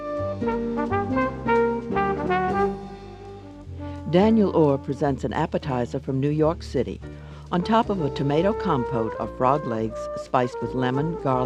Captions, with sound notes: (jazz music) - [Voiceover] Daniel Orr presents an appetizer from New York City. On top of a tomato compote are frog legs, spiced with lemon, garlic and the